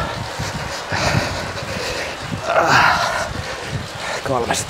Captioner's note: heavy breathing